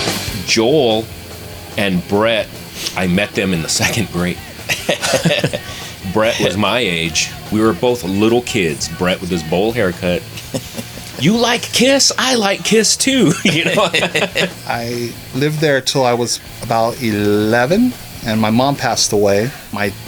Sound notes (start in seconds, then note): 13.0 laughter